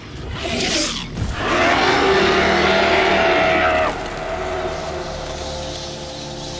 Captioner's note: female roars